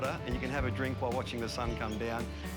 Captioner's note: upbeat music continues; fish splashes